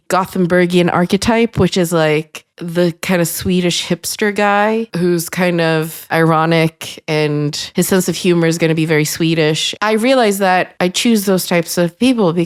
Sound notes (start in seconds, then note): none